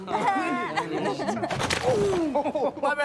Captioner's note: teenager noises; splash